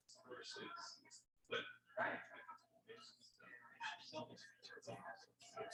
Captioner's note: people chattering indistinctly